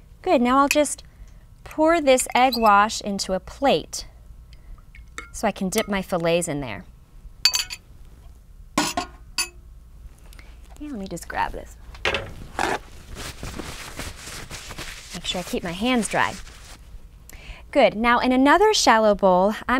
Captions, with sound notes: Good. Now I'll just pour this egg wash into a plate, so I can dip my fillets in there. Let me just grab this. (paper towels rustling) Make sure I keep my hands dry. Good. Now, in another shallow bowl,